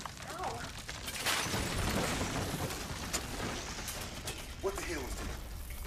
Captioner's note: objects crumble and crash